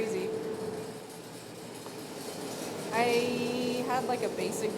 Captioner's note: cocoa rattling; machine whirring